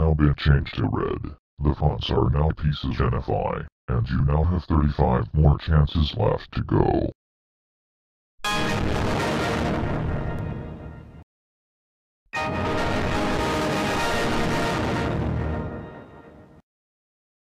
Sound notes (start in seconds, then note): 8.3 Windows Server 2003.EXE Shutdown Sound; 12.4 Windows Server 2003.EXE Startup Sound